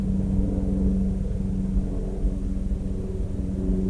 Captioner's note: helicopter sounds